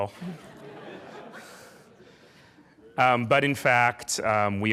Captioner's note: laughing